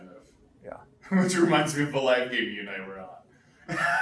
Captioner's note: laughs